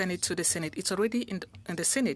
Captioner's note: speaking French